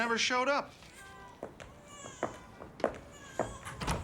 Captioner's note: baby crying